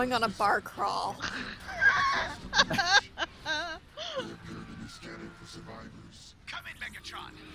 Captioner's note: laugh